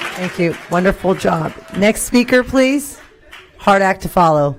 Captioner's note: applause